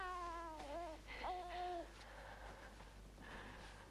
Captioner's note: baby cooing